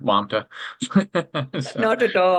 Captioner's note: laughing